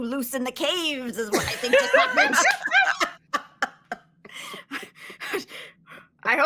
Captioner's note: all laughing